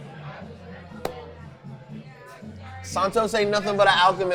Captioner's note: clapping